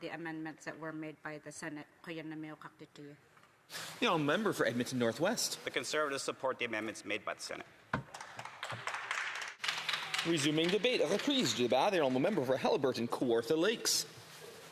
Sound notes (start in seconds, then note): 11.9 applause